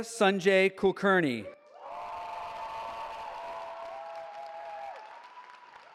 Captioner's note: cheering